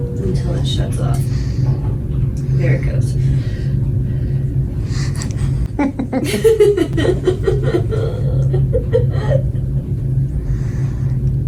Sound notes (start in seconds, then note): 8.1 laughing/crying